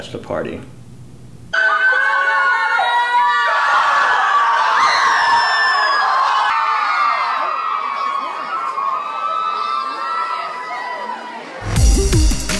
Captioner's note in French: En hurlant